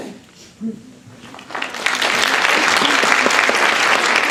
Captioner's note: applause